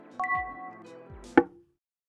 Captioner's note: knock